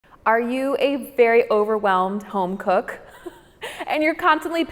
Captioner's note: chuckles